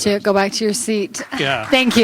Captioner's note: applause